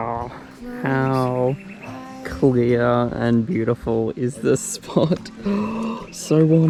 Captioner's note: gasps